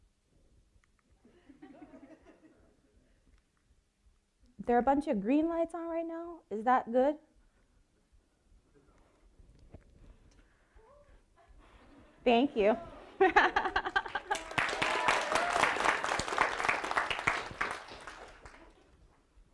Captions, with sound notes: There are a bunch of green lights on right now. Is that good? Thank you. (laughing) (audience applauding)